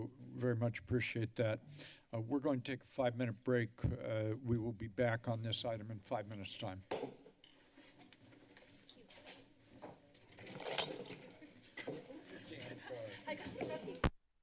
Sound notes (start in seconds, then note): 7.0 hits gavel